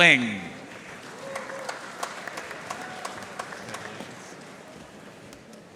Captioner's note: audience cheering and applauding